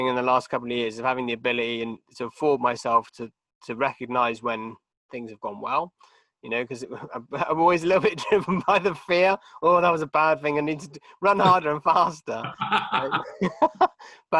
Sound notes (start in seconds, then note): 8.1 chuckling; 12.4 both laughing